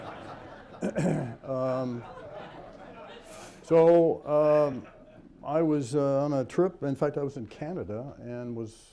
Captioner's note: laughter